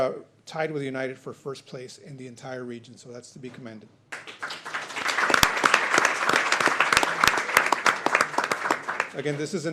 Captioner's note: applause